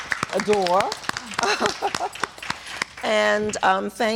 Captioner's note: applause